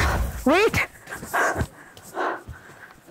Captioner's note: Panting